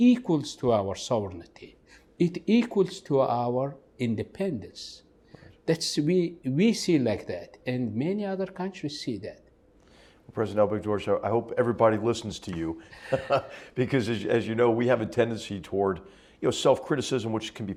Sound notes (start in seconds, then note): 12.9 laugh